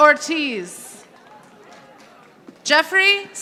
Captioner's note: audience applauding